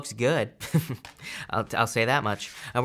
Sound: chuckles

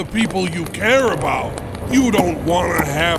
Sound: puffing cigar

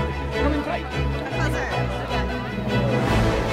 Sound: chatter

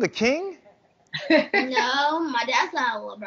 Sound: mom laughing

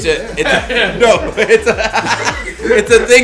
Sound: laugh

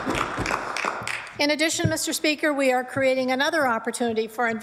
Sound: applause

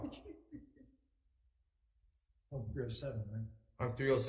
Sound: committee member chuckles

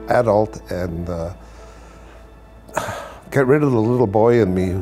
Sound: sighs

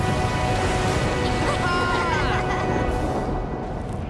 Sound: laughing

